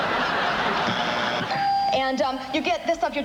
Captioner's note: buzzer